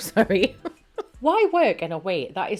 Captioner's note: laughing